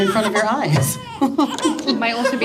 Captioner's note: baby cries